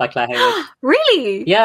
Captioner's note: gasps